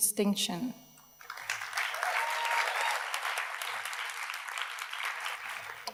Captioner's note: audience cheers and applauds